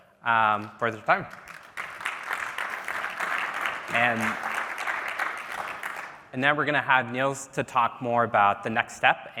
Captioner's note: applause